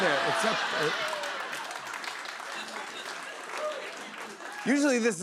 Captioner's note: laughter and applause